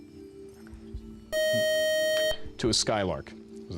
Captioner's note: beep